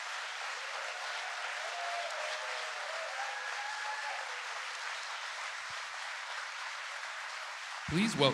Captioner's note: applause